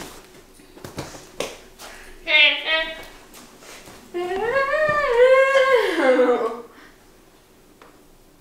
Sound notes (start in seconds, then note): 2.4 laughs